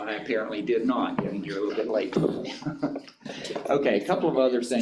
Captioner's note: chuckles